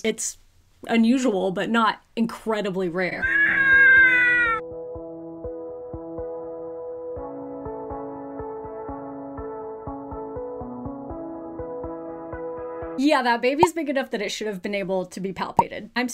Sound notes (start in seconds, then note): 3.2 baby cries; 7.1 calming music